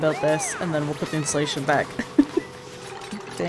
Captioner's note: laughs